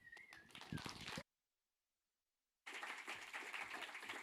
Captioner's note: audience applauding